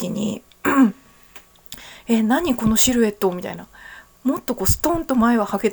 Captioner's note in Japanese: 咳払い